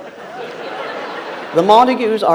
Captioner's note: audience laughs